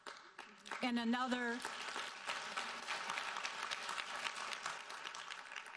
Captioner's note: audience applauding